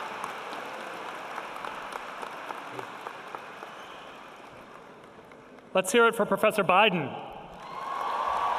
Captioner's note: cheering and applause